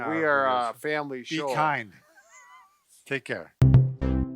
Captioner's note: laughing